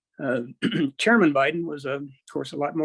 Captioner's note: clears throat